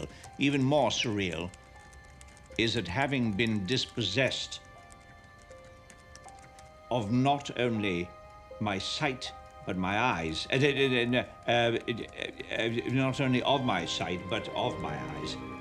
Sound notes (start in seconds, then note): 11.2 stammering